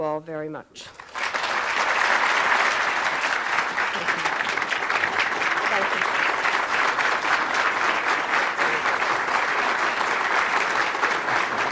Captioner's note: applause